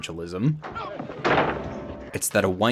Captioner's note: door slams